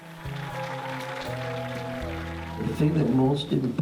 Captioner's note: audience applauding